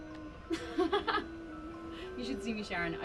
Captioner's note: laughs